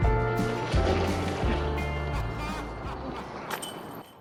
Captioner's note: splash